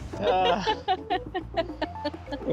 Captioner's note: laughing